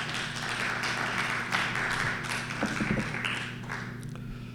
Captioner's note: applause